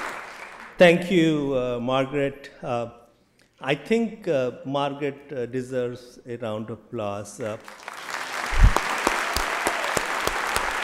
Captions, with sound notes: >> Thank you, Margaret. I think Margaret deserves a round of applause. [APPLAUSE] People tell